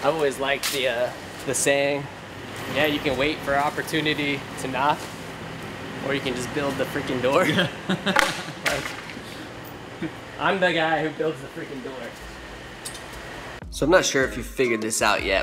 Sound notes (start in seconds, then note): 7.3 laughs